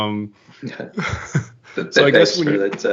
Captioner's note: laughter